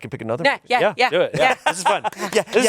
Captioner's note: laughs